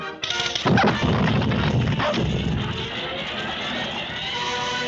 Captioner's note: explosion booms; dramatic music